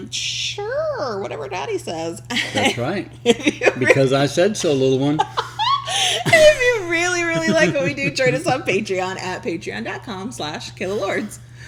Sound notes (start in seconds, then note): 3.2 laughs; 5.1 laughing